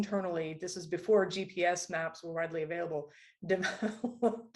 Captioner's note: laughter